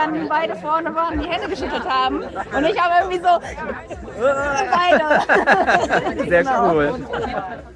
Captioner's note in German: gelächter; gelächter